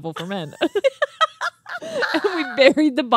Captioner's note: laughing